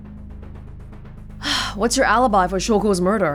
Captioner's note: exhales